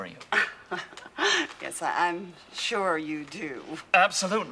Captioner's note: chuckles